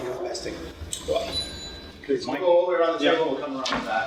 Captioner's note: background conversations